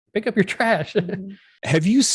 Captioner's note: giggles